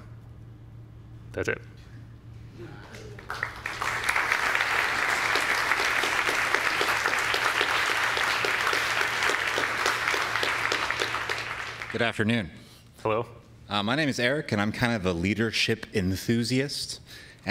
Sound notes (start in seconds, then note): 3.4 audience claps